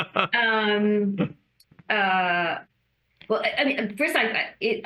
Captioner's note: laughs